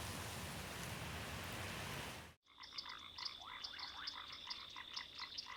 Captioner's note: crickets chirping